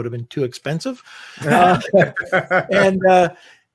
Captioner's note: laughing